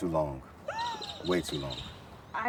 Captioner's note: friend gasps